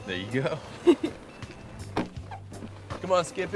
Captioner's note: Fern laughs; laughs